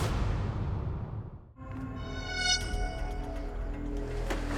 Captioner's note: birds singing